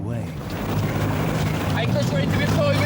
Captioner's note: wind whooshing